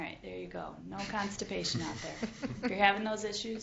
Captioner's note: panel laughs